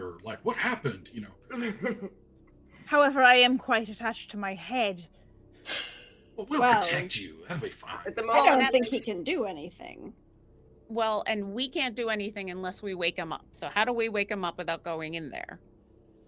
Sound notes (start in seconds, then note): 1.5 chuckles